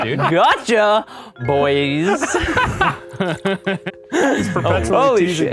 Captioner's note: men laughing